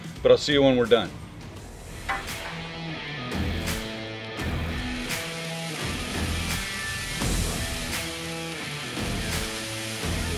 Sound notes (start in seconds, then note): 2.7 upbeat rock music; 6.6 meat sizzling